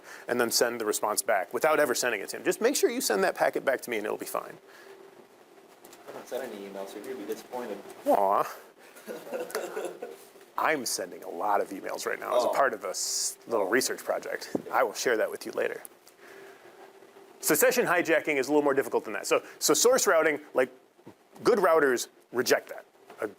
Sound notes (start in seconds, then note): 8.9 students chuckling